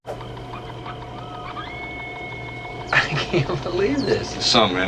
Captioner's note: radiowaves screeching